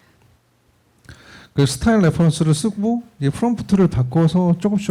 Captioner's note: speaking korean